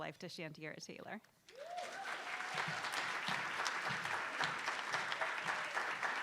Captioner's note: attendees applauding